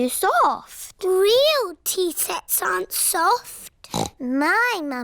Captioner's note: snorts